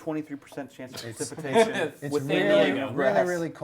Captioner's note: all chattering